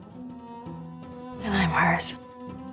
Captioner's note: voiceover